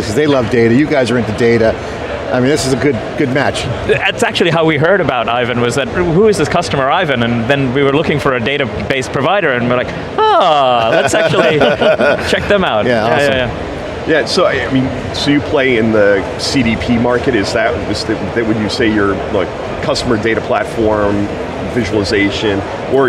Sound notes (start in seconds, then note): 12.5 group laughing